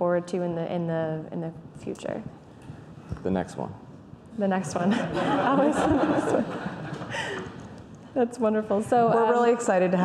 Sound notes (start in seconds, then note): 5.0 laughing